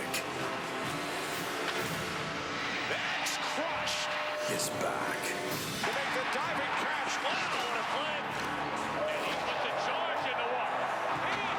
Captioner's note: cheers & applause